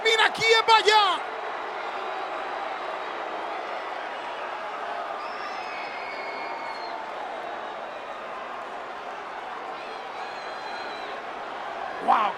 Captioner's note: applause